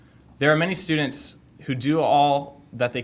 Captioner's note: none